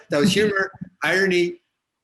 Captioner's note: chuckles